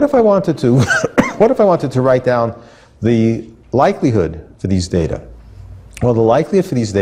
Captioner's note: cough